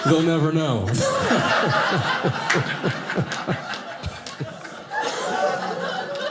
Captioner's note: audience laughing